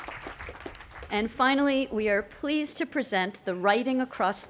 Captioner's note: cheering and applause